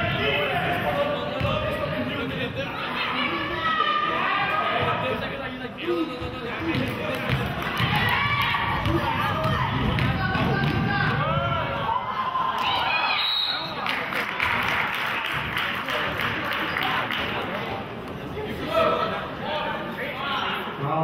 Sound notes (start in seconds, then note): 1.4 murmurs; 13.1 whistle blows; 13.8 clapping